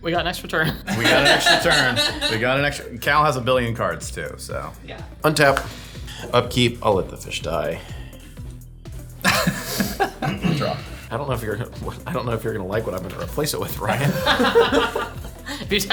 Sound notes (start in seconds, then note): 0.8 laughing; 9.2 laughing; 13.8 all laughing